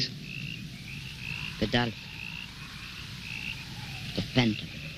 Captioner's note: speaking in foreign language